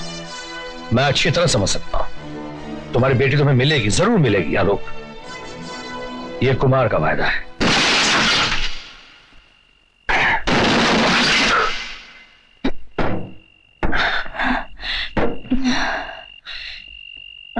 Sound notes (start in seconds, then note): 13.7 gasping